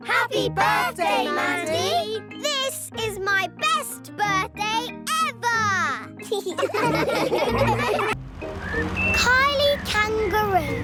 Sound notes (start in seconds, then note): 6.2 laughing